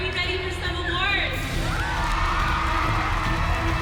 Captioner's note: cheering